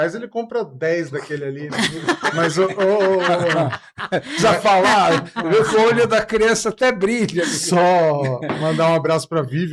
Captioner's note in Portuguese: risadas